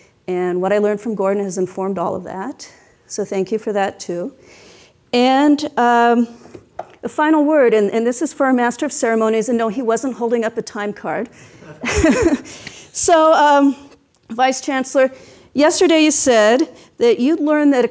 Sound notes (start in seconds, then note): 11.5 laughs